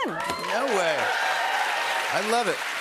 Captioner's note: cheers and applause